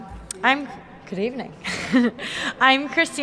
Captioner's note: chuckles